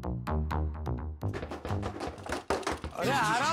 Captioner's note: knocking on the door